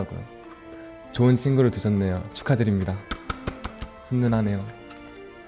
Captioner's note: claps